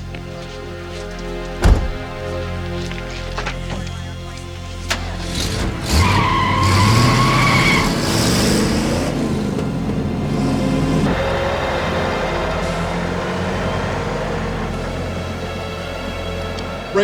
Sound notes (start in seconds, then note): 0.2 suspenseful music; 6.3 tires screeching; 9.1 suspenseful music